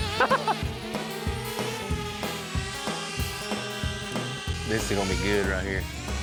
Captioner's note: giggling; drone spinning